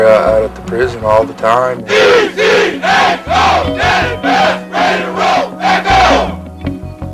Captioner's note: shouting